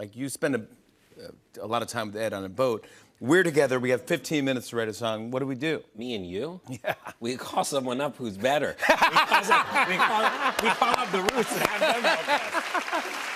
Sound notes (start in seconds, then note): 8.8 laughter